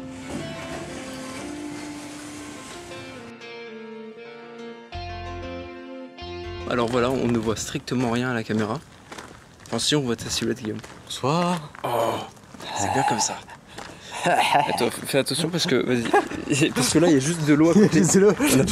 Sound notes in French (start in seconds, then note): 12.6 fait des bruits de psychopathe